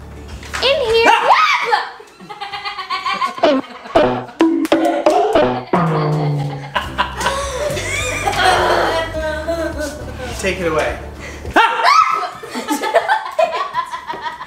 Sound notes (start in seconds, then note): 1.0 scream; 1.1 shout; 2.1 laughter; 3.9 bonking sounds; 5.9 laughter; 11.5 shout; 11.6 scream